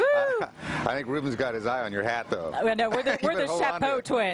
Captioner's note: cheering